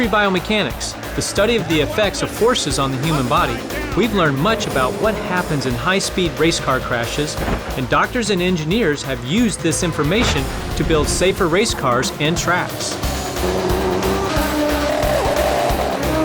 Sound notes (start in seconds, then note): 12.7 machines buzz